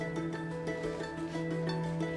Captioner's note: laughing